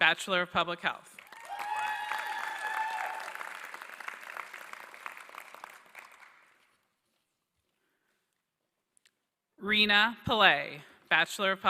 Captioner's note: applause